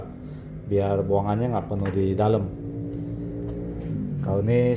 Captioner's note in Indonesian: suara mesin motor